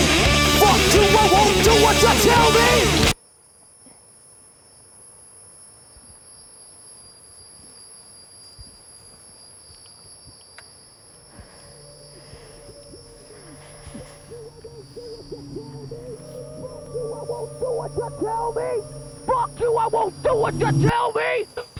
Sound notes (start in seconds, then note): 3.5 static; 12.5 heavy breathing